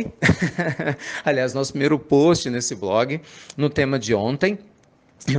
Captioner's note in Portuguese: risadas